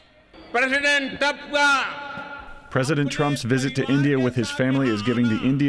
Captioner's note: through translator